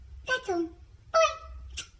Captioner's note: smooch